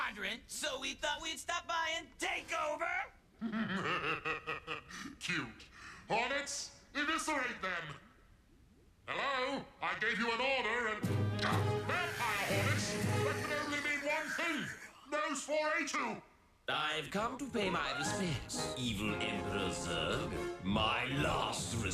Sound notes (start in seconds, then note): 3.4 laughs